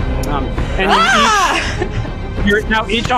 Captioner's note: screams